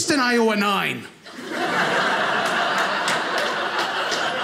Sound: audience laughing

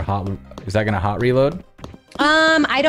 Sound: footsteps

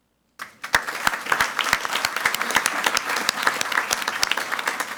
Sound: audience applauding

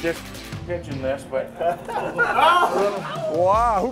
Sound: players laughing

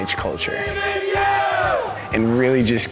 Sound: cheering

